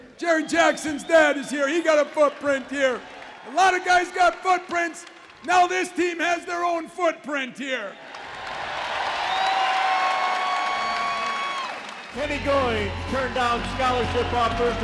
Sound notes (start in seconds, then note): 7.9 audience cheers and applause